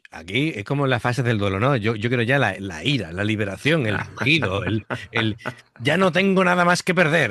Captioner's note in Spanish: risas